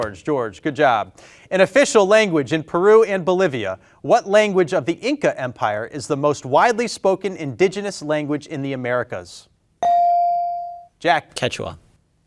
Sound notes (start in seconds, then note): 9.8 bell ringing